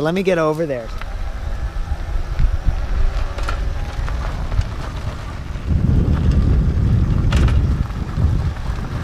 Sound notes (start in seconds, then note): 3.0 motor whirring; 3.0 wind blowing